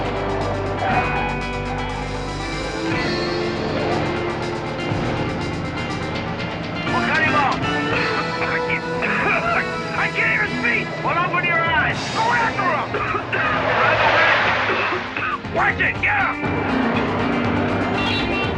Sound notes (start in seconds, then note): 8.3 coughing